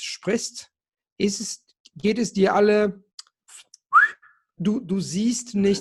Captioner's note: whistling